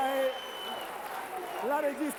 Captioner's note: Applauso